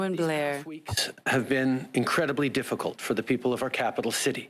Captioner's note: speaking French